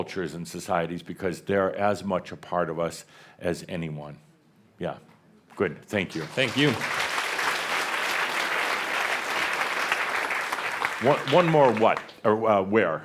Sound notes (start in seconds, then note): 6.1 audience applause